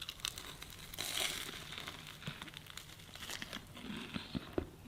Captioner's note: pastry crunches